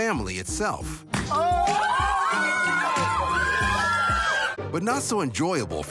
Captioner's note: family cheers